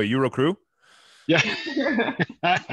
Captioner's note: laughs